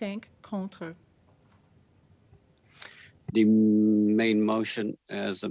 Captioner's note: speaking French